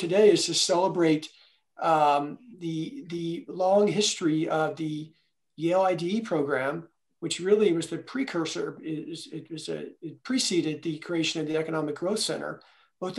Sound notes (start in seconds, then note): none